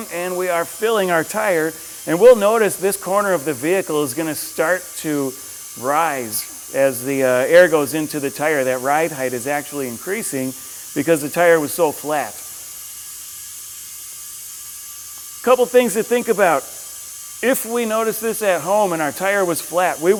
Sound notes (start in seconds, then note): 1.3 air chuck hisses; 12.6 air chuck hisses